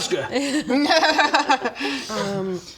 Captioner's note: not reassured laughter